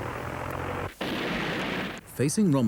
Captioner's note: engine rumbles; cannon blasts